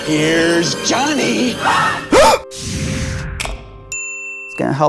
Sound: gasps

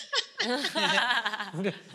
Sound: she laughs

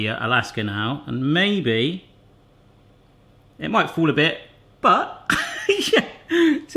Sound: laughs

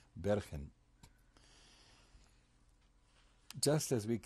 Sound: pauses for 3 seconds

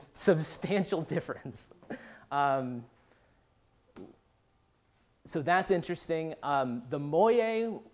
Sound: laughs

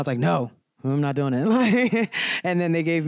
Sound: laughter

